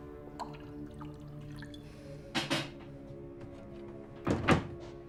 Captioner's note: whiskey glugging; closer door thuds